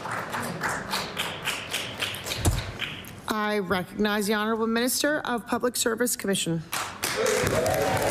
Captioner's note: some Applause